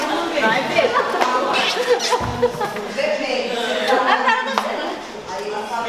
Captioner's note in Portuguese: risadas